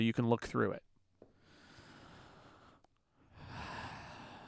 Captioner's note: silence